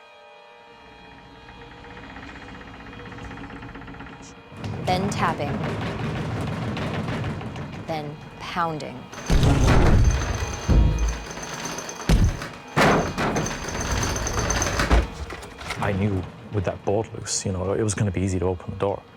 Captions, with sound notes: [creaking] Then tapping. [tapping] Then pounding. [pounding] [door knob shaking] I knew with that bolt loose, it was going to be easy to open the door.